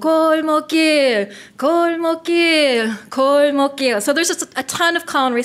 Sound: foreign language

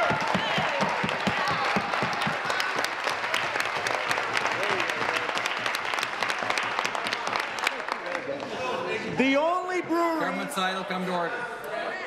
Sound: applause

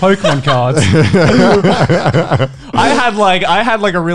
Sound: laughing loudly

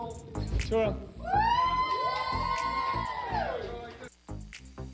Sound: crowd cheering

